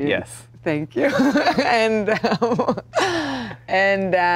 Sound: laughs

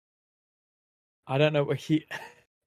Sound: laughs

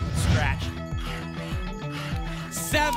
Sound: alarms; scratching sounds

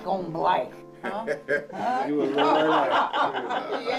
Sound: laughs

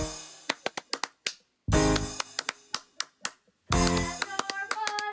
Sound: rhythmic butt clapping

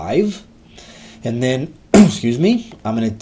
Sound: cough

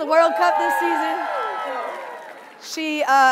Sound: audience cheering

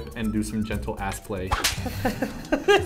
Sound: whip

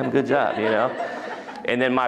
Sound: laughter

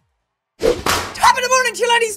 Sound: slap noise

